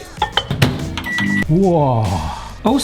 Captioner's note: microwave beeps